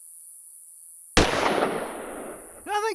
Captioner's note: gunshot